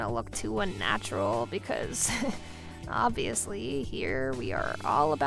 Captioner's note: chuckling